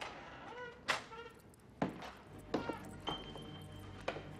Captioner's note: door creaking; somber music